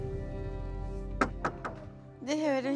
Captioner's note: doors knocks